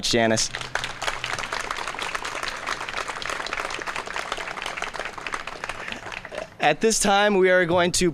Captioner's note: applause